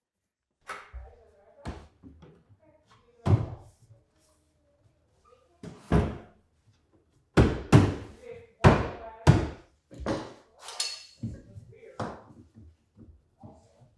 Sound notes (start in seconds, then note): 3.4 board thudding; 10.6 object clattering